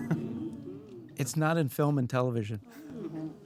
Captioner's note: chuckles